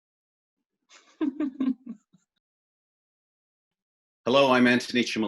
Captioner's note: laughs